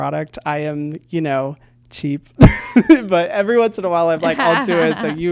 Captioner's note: laughs